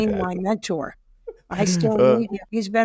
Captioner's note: laughing